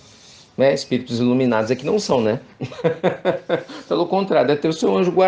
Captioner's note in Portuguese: risos